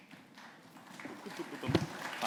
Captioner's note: applause